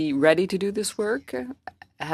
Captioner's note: speaking French